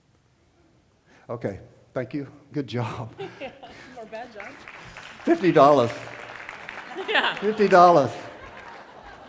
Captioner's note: volunteer and crowd laugh